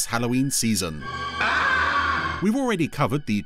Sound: screaming in fear

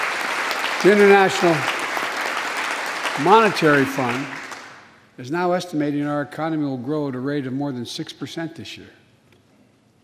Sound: applause

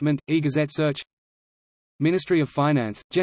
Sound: in Arabic

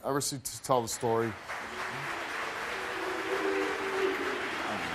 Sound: audience applause

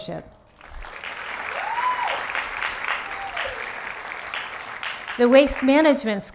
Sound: applause

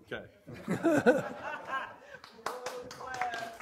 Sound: laughs; applause

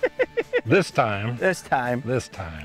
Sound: laughter

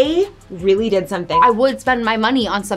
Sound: beep

